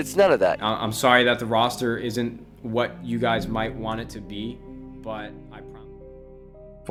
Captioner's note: vo fades